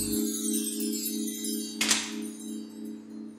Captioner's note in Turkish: Kapı açıldı